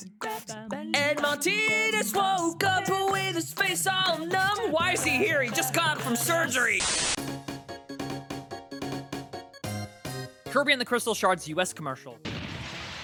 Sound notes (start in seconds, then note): 6.7 static; 12.2 boom